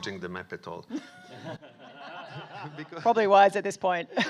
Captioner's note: audience laughing